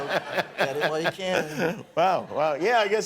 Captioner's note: laughing